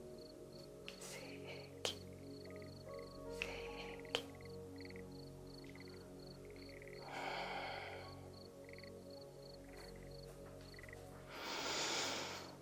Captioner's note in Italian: sospiri